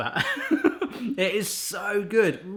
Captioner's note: laughs